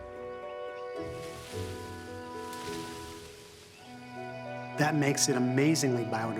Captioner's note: branches rustling